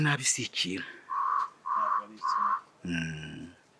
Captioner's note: cri d'un crapeau